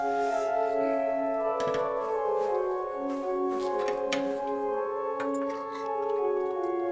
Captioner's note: steady organ music; flies buzzing